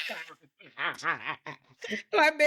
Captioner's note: laughing